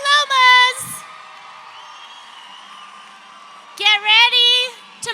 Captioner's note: audience cheering